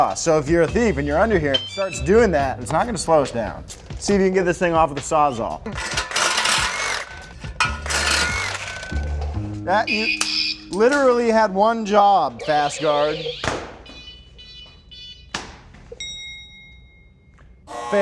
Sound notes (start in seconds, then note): 5.7 saw whirring; 12.3 alarm buzzes; 13.8 alarm beeping; 16.0 dings; 16.2 buzzes